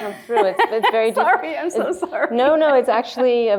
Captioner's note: laughing